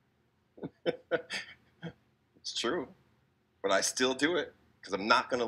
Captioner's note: laughs